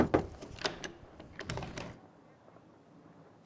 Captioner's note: knocking; door unlocks